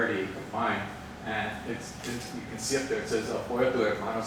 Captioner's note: speaks Spanish